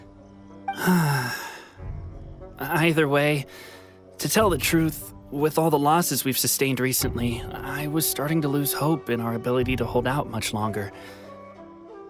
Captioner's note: sigh